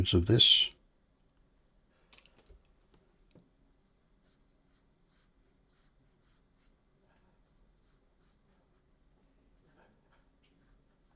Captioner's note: silence